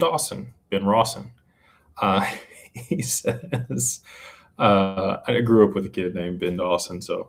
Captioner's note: laughter